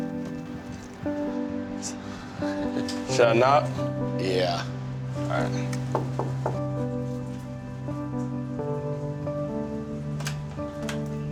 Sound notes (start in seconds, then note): 5.8 knocking on door